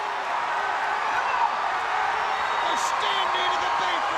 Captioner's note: crowd roars